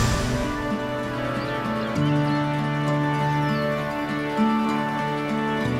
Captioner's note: birds chirping